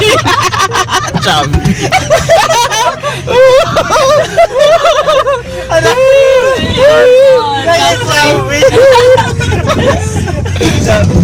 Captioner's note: laughing